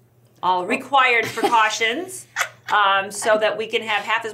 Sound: laughs

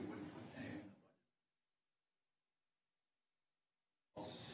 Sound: councilor speaks off mic

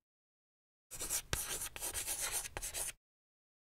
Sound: writing on chalkboard

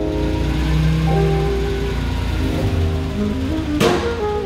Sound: engine humming

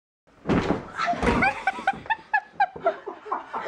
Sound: laughter

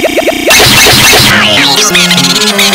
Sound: whump

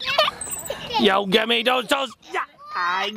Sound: laughing

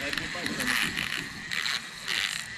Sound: reel cranking; thunking; reel cranking

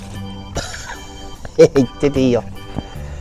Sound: laughs

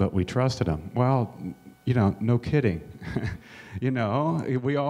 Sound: chuckles

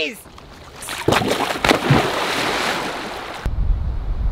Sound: water splashes

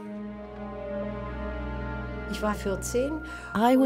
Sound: somber music; speaks in foreign language

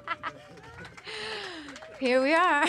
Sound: applause

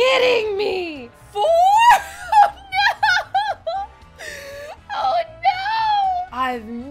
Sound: laughing

